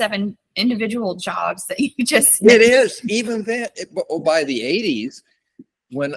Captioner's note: laughs